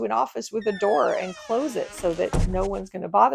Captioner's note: door creaks and thuds